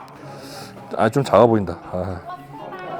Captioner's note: sniff